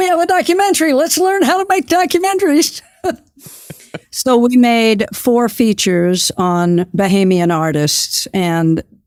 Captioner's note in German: Lacht